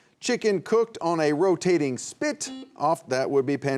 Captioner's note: buzzer buzzing